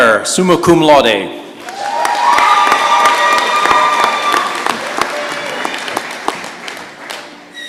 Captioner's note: applause and cheers